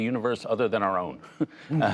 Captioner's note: laughter